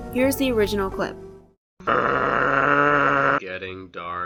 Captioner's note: bull noise